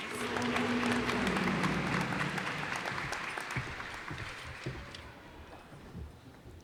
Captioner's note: cheers and applause